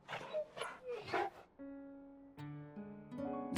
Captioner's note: whine